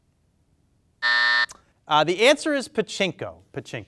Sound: timer buzzes

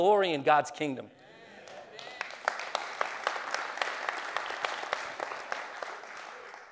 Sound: clapping

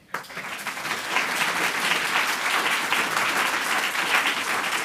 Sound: audience applauding

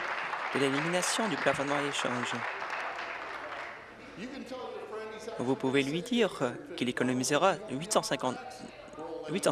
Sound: applause

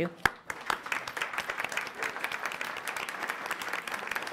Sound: applause

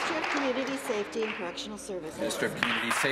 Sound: applause

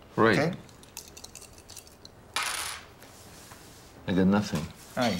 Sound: dice clatter

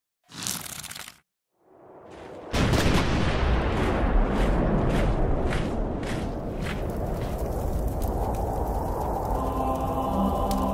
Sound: canon fire

